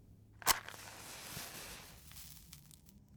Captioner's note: match strikes, burns